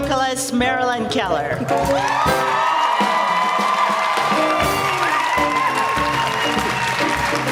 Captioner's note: applause